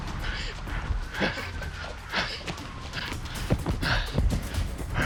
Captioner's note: breathing heavily